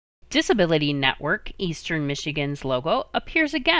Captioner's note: voiceover